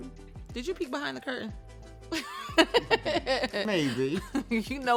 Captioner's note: laughs